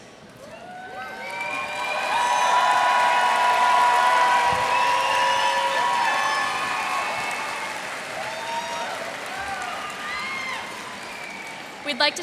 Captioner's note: cheers and applause